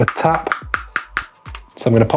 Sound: tapping

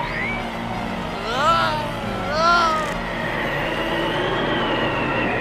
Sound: yelling

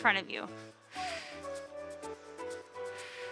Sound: exhales

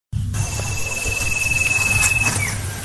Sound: footsteps

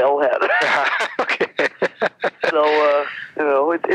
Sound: both men laughing

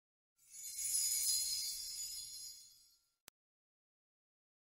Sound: chimes twinkling; silence

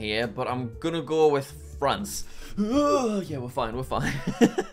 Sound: groans; laughs

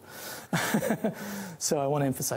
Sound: chuckling

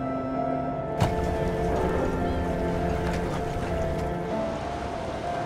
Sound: waves crashing against shore

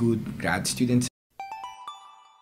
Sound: chime

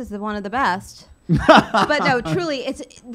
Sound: laughing

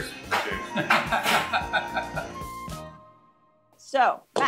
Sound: laughs

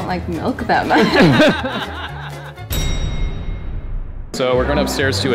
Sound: everyone laughing

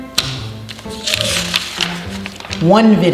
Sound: quirky music; paper tearing

